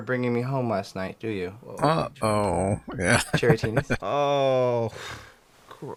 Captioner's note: laughing